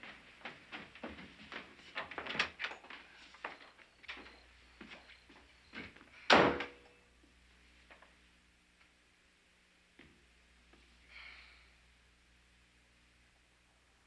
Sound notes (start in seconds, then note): 6.4 door thuds